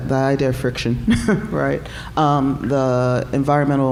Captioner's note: chuckling